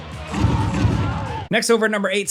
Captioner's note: crowd yelling; gun blasting